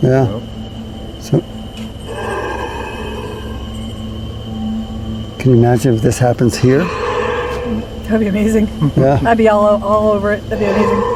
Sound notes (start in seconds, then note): 2.0 creatures roaring; 6.5 creatures roaring